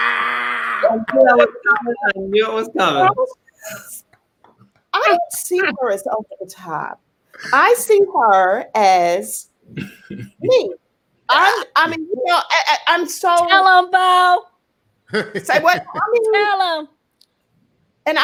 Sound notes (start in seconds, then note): 3.3 laughing